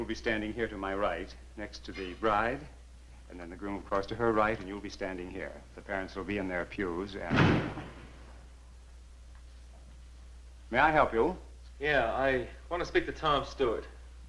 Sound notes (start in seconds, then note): 7.2 door slamming